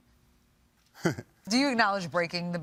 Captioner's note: chuckles